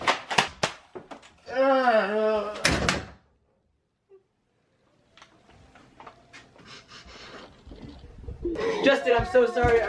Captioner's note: crying